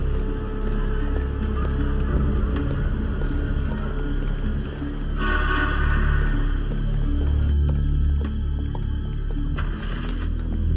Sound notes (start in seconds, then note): 5.0 horn blares; 7.3 suspenseful music